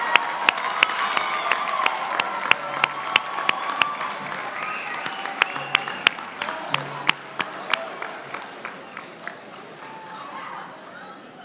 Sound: applause; cheering

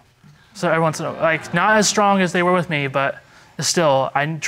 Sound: stammering

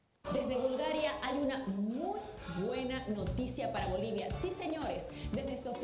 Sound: presenter speaking in Spanish

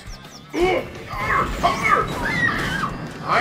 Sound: Funny Funnyman noises

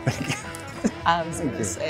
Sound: chuckles

